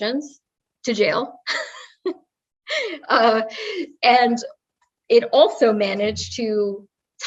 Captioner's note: laugh